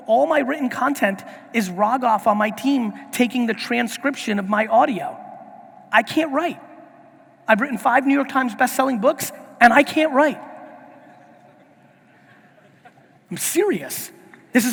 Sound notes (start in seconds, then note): 11.1 audience laughing